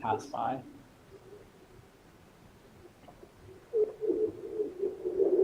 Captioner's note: ice reverberations